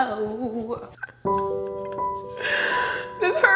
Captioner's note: sobbing